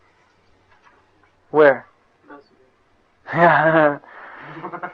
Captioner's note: laughter